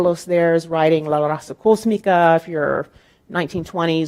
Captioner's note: speaking in foreign language